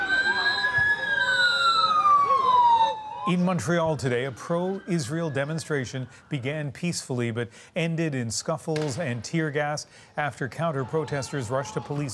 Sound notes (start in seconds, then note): 0.0 sirens